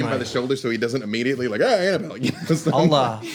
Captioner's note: yelling